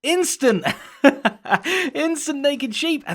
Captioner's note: laughs